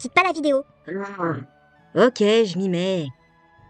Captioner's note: groans